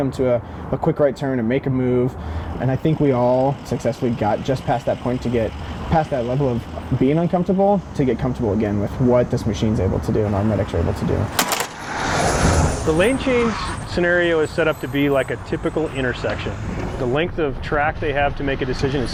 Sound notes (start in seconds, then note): 11.3 simulator snaps; 11.8 ambulance roars